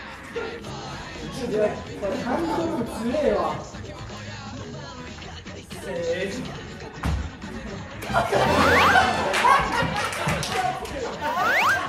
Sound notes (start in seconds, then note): 8.1 sound effect:hop; 8.5 sound effect:ta-da; 8.5 sound effects:ta-da; 11.1 sound effect:hop